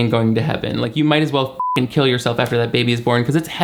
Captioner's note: beep